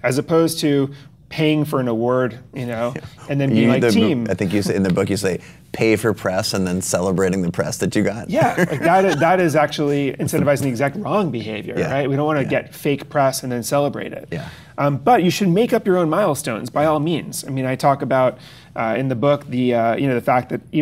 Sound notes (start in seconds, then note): 8.3 Chase laughs